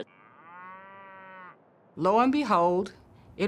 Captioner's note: cow mooing